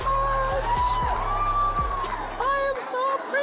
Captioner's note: audience cheering